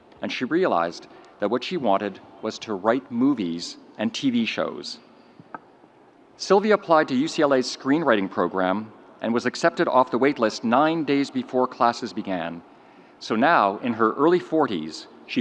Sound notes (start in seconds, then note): none